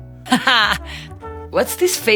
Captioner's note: Gisele laughing